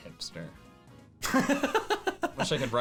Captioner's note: laughing